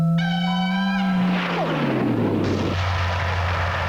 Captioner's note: laser whizzes